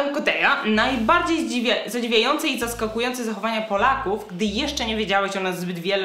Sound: speaking in Polish

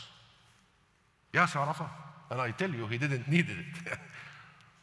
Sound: laughs

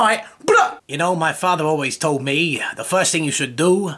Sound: in New York accent

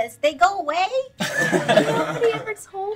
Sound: laughing

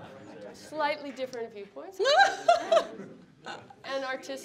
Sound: laughing

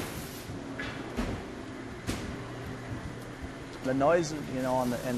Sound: shop noises

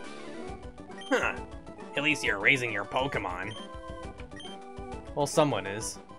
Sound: gruff nasally voice

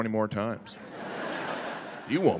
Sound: audience laughing

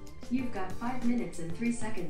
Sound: computer Voice

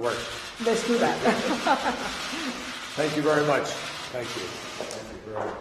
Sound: laughter

